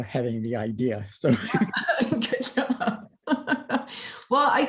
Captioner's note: laughter